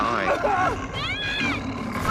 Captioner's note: man screaming